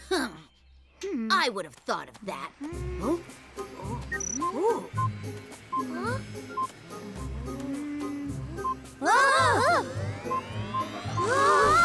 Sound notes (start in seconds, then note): 4.0 machine beeping; 6.4 beeping; 9.0 all exclaiming; 9.8 beeping rapidly